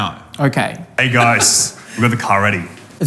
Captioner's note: laughing